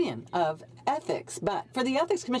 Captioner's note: speaking French